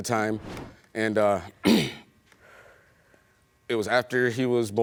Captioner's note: clears throat